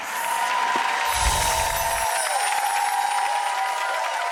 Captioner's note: applause